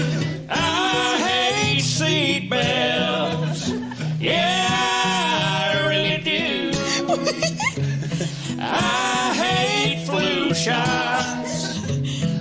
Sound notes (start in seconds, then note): 6.8 laughter